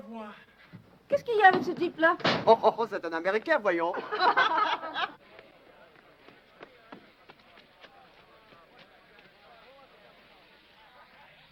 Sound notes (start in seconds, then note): 0.1 speaking foreign language; 3.9 women laughing